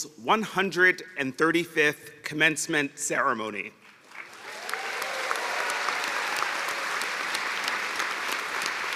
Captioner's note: cheers and applause